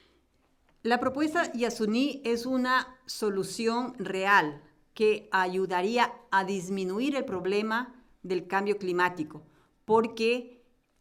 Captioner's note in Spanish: Español